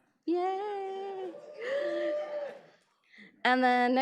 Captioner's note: audience cheers